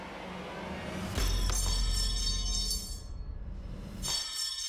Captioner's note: clanging